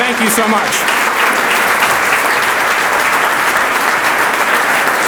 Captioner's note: audience applauds